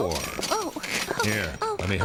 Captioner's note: grunting nervously